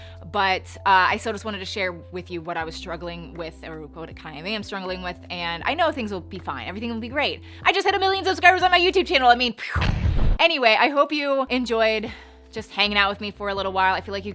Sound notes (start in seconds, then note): 9.7 mimics explosion; 9.8 loud explosion